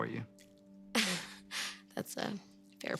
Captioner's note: Cassie laughs